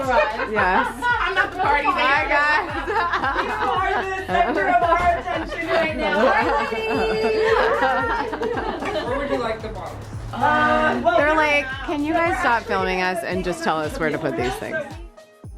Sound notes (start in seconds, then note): 0.1 laughing